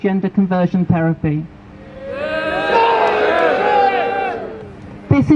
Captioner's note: crowd boos